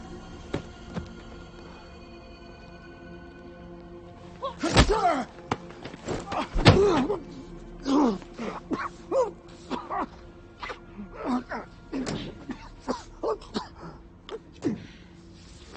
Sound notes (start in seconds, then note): 9.6 guy coughing